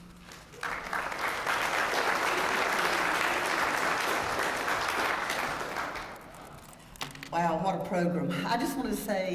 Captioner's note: applause